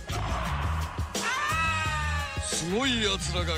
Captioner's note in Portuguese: grito